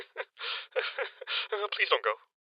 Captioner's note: sobbing